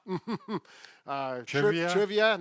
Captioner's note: chuckling